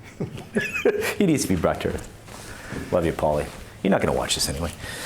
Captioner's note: laughs